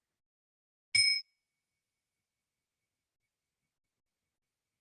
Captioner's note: bell rings